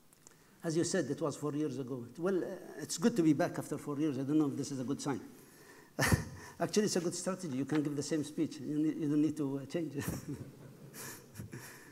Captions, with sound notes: As you said, it was four years ago. Well, it's good to be back after four years, I don't know if this is a good sign. (laughs) Actually it's a good start, you can give the same speech. You don't need to change it. (laughs)